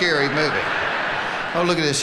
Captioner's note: audience laughing